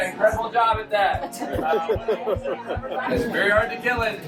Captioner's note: passengers laughing and chattering